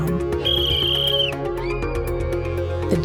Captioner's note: whistle blowing